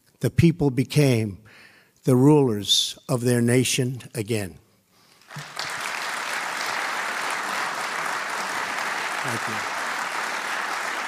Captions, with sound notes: the people became the rulers of their nation again. (audience applauding) Thank you.